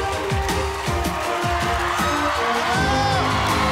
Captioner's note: audience cheering